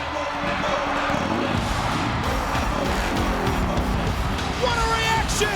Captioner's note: engine revving